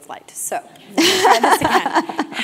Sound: laugh

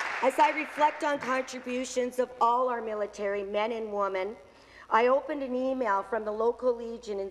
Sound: applause

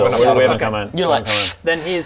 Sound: puff

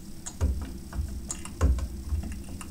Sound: rhythmic thudding

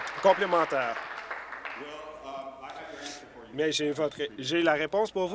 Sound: applause

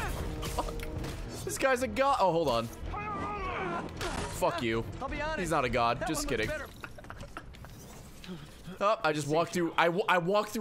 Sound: laughs

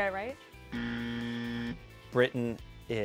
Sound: game show buzzer

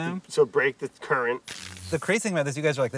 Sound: lighting sounds

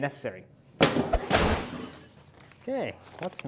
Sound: glass shattering

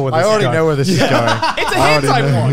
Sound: laughing

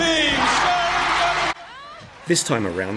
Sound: audience cheering

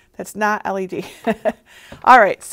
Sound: laughs

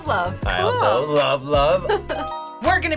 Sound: graphics chiming

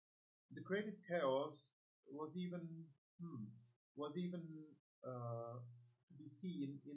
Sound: hums

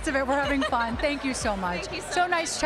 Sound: laughs

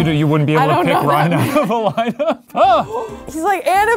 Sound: laughs

